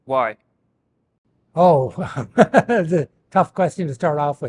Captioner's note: laughs